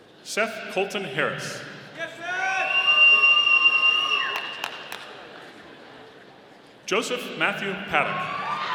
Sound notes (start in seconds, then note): 4.2 audience applauding; 8.1 audience cheering